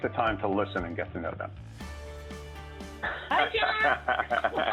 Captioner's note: laughter